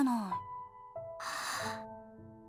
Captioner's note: gasp